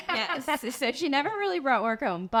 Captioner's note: laughs